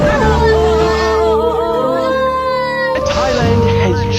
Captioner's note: children are crying in banker